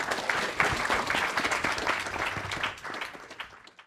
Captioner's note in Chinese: 课堂鼓掌